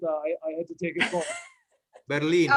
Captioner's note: laughs